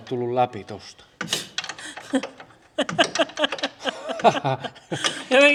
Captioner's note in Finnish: naurua